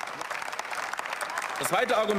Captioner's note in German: Beifall